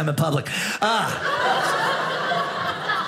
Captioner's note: audience laughing